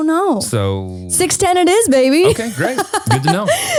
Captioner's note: laughs